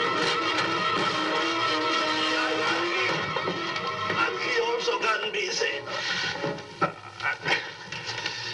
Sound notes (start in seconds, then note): 2.6 speaking spanish